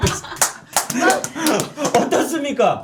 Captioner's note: clapping